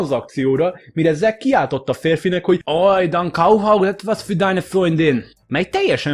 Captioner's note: in German